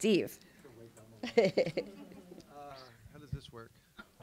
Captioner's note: laughs